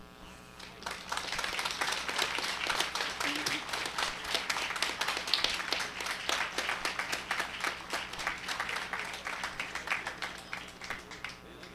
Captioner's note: applause